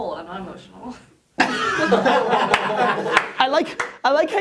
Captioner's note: laughter